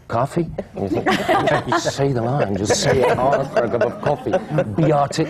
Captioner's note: laughter